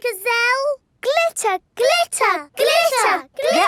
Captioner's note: chanting